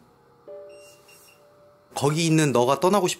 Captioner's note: beeping